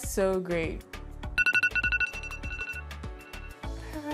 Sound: pinging

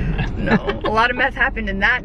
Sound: laughing

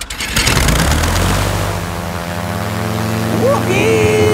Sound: plane humming

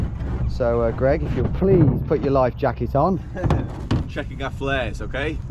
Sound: laughs

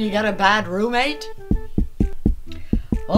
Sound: knocking

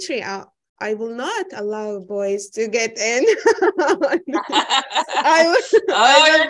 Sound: laughing

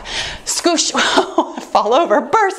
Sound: laughs

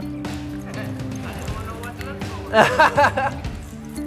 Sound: passerby talking; laughing

